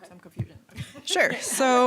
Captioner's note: chuckling